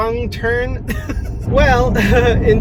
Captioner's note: Hyram laughing